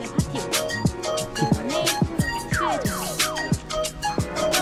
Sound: laughs

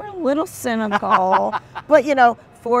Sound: laughs

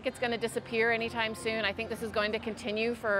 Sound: none

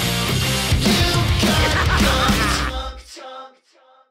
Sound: insane laughter

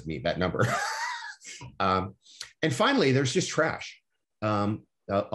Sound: laughter

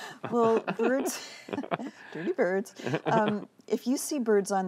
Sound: laughter

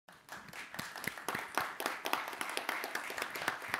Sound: audience clapping

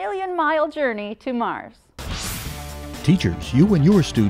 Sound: sound Effects

